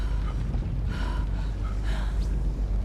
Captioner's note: breathing heavily